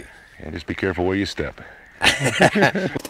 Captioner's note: laughter